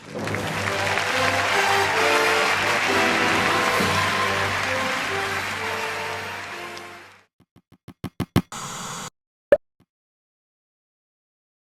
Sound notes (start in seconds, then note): 7.5 tapping; 8.2 static; 9.6 pop